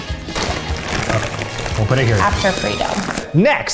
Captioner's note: bags rustling